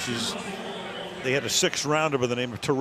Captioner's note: pa announcement